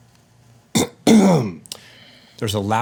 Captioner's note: clears throat